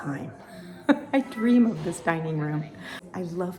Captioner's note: laughing